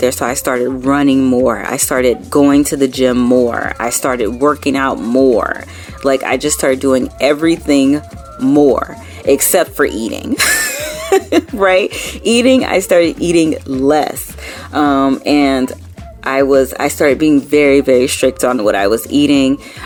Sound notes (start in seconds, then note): 10.3 laughing